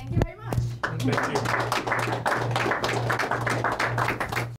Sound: applause

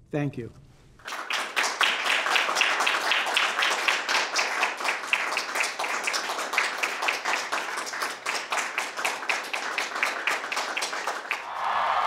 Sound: applause

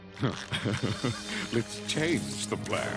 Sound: laughing

